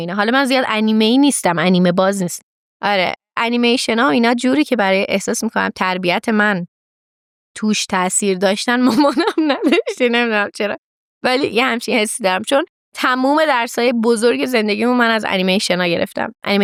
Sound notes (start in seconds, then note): 8.9 laughs